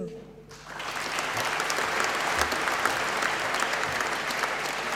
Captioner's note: applause